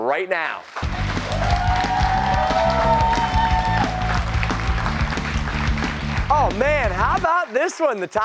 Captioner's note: cheers and applause